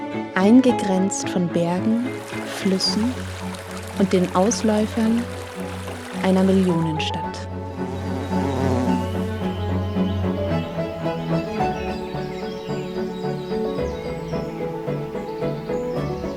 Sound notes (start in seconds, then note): 9.5 bee buzzing; 12.3 birds chirping